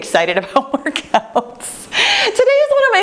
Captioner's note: laughing